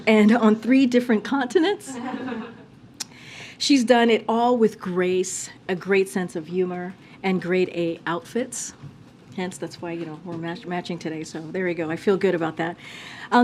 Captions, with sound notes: and on three different continents. (Laughter.) She's done it all with grace, a great sense of humor, and grade A outfits. Hence that's why, you know, we're ma- -- matching today. So, there we go. I feel good about that.